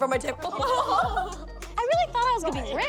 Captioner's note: laughing